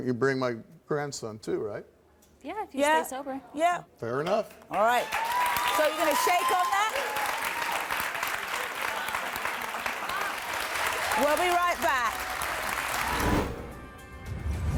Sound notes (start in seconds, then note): 8.7 applause